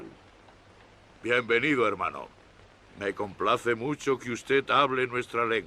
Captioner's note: speaks Spanish; Victorio speaks Spanish